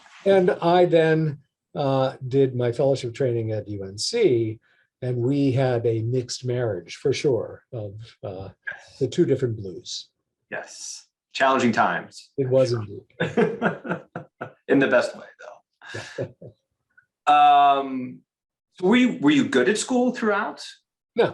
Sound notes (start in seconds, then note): 13.1 laughs